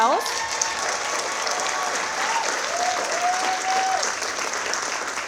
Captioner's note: audience applauding